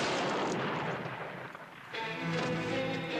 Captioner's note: gun fires; dramatic music